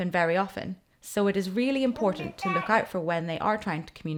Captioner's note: babbles